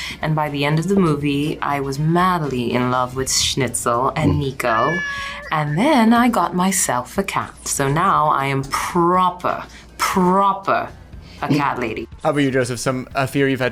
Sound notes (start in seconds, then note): 4.2 meows